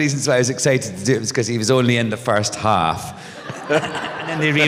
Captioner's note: laughter